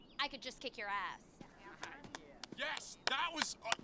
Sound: brad clapping

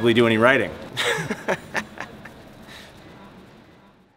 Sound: laughs

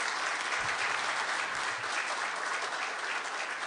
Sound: applause

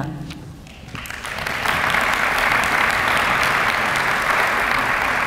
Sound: applause

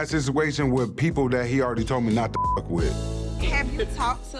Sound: beep

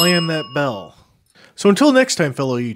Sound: slams his smiley bell

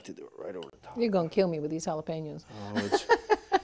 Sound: laughs

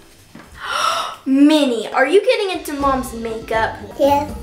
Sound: gasp

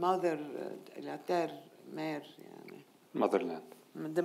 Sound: speaking in foreign language

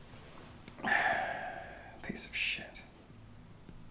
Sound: sighs

